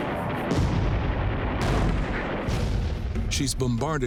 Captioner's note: cannons firing